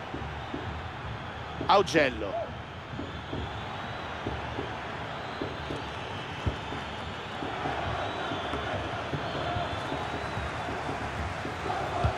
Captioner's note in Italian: Applauso